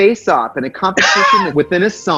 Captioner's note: laughs